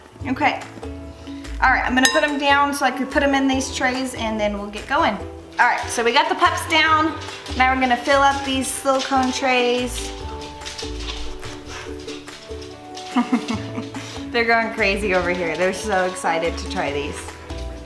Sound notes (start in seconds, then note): 13.0 laughs